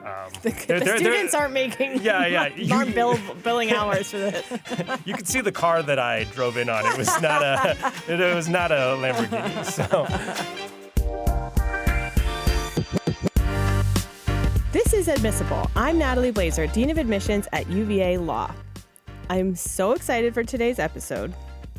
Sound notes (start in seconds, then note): 0.1 laughing; 6.6 laughter